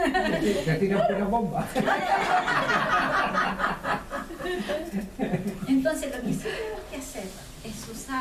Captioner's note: laughs